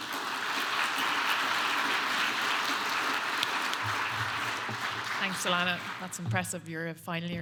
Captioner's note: clapping